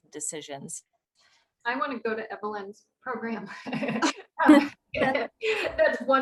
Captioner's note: laughter